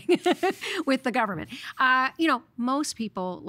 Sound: laughing

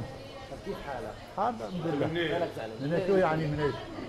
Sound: Arabic

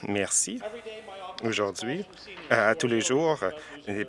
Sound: some Applause

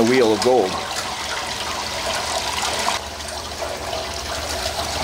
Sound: water gurgling

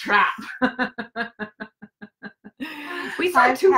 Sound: laughs

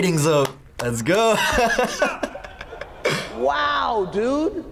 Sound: laughs

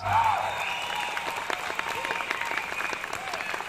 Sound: applause

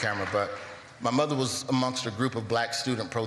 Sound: applause

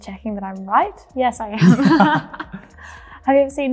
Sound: both laughing

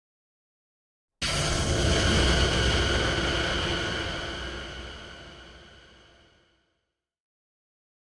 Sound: sound of old missile

